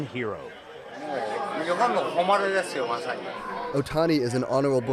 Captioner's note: speaking Japanese